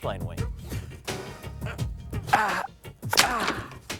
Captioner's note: grunting; snapping sound